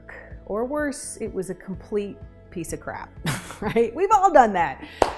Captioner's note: chuckles